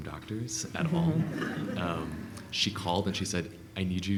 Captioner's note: laughing